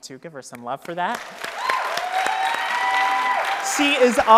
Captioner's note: audience cheering and applauding